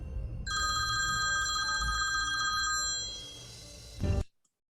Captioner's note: phone ringing